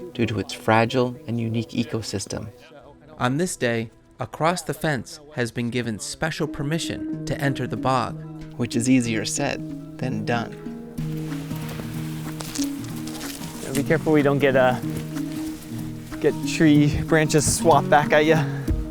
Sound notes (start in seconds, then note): 11.2 foliage rustling; 11.2 mysterious music